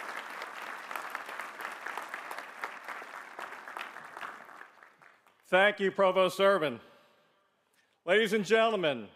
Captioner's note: applause